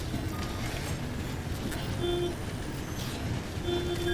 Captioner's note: electrical glitching, honking